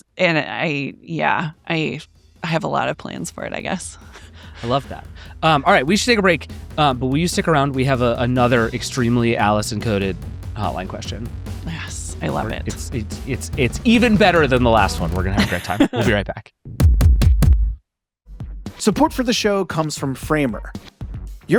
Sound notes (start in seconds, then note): 14.0 laughs; 16.7 upbeat drum music